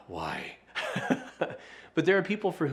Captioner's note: laughing loudly